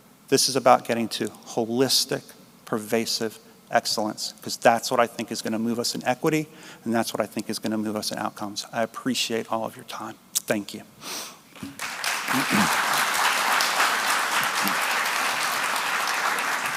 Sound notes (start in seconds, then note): 11.6 applause